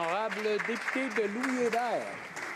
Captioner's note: some Applause